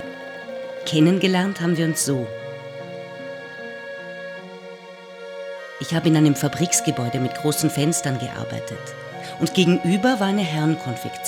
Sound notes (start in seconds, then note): 6.8 German speaking continues